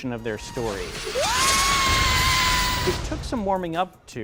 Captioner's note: screams